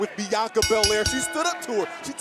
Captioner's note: bell ringing